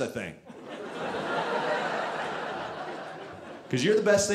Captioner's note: audience laughing